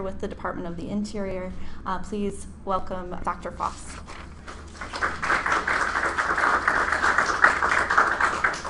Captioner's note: applause